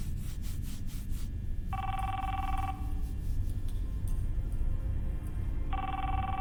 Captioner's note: mobile phone rings